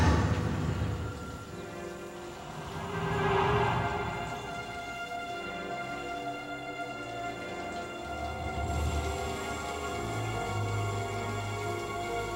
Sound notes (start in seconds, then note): 2.0 ominous whooshing; 9.0 suspenseful music